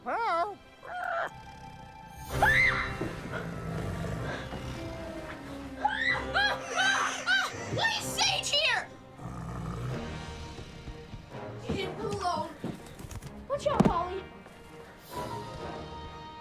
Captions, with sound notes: (parrot squawking) (Jimmy screaming) (Sage growling) - Why is Sage here? Whoa, watch out Polly.